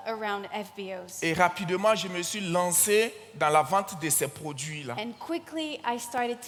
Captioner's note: continues in French